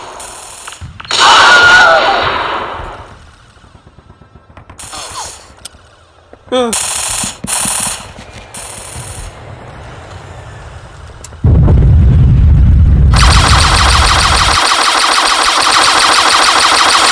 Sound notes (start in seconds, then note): 1.0 Wilhelm scream